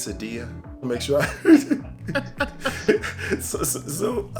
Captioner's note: laughs